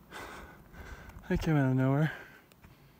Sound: heavy breathing

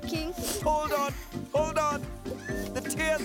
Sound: sniffing

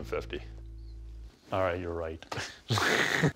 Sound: chuckles

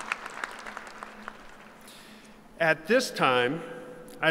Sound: applause

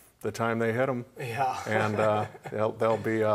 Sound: laughs

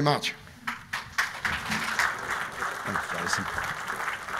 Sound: clapping

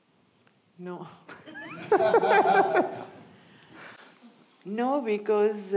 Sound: audience laughing

